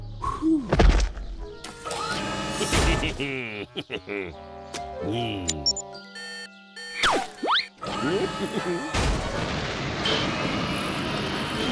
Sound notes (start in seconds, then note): 2.6 giggles; 6.7 beeping; 8.2 giggles